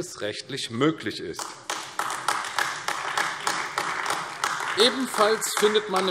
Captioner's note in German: Beifall AfD